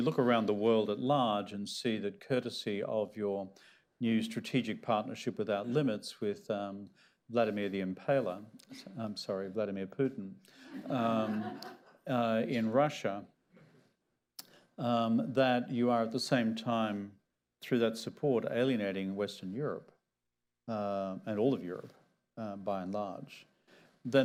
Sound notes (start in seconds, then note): 10.6 laughter